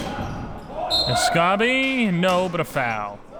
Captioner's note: whistle blows